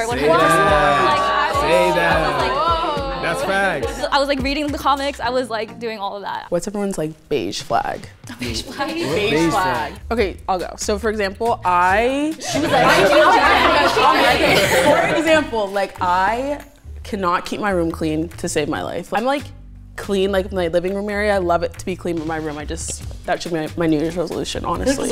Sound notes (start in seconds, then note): 9.3 laughs; 12.4 group chatters